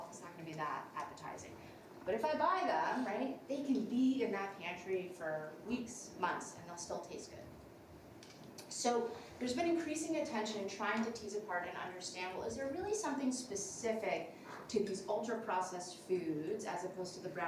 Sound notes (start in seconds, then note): none